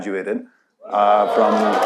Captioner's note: audience cheering